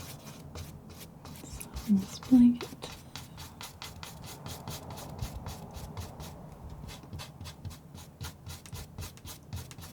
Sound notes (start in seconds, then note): 4.9 scratching